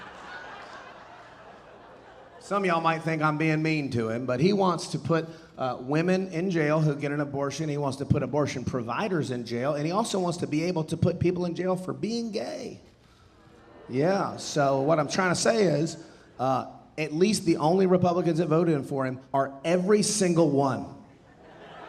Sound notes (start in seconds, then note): 0.0 audience laughing; 13.9 audience booing